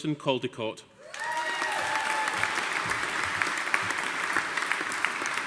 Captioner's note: audience applauding